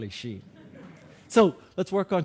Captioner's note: audience laughing